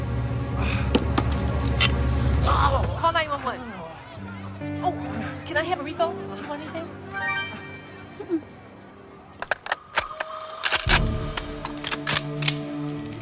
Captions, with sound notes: - Call 911. Can I have a refill? Do you want anything? (suspenseful music) (guns cocking)